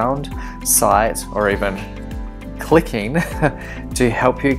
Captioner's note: chuckles